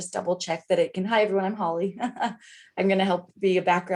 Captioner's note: laughs